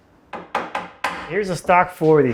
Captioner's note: mallet bangs